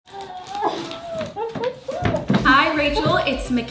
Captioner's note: grunting